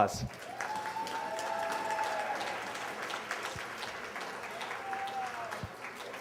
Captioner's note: applause